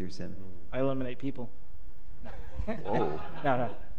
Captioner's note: laughter